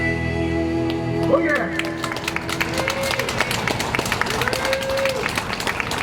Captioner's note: audience applauding